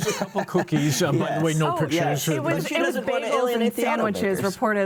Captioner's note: laughs